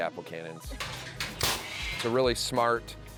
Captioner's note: cannon popping